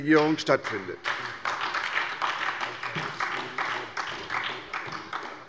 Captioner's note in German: Beifall bei der SPD